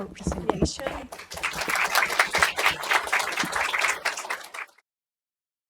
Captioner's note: applause